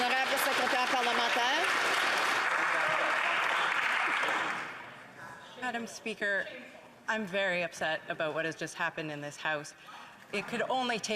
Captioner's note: some Applause